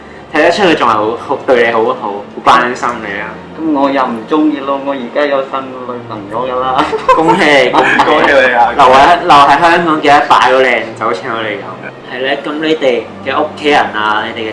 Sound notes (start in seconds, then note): 7.7 laughs